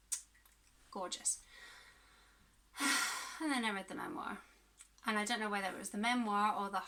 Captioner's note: kiss